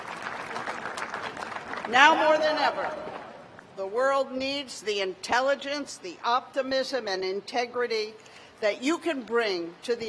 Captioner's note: applause